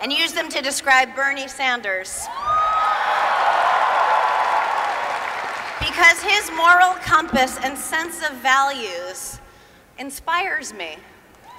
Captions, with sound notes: and use them to describe Bernie Sanders. [Applause] Because his moral compass and sense of values inspires me.